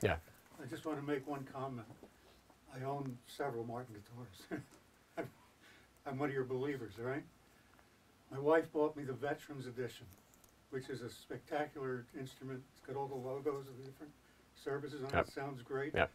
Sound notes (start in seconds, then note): 4.4 laughter